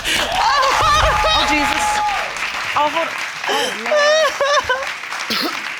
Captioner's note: wails